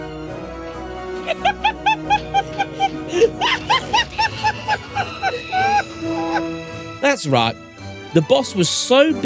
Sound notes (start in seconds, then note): 2.7 laughter